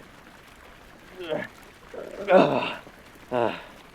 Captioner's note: both grunting